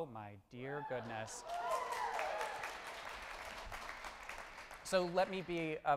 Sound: audience applauds

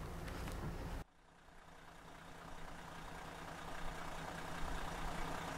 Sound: car engine roaring

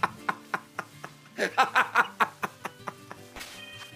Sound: laughs

